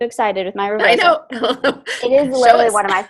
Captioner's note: laughs